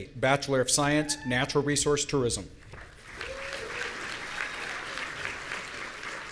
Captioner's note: audience applauding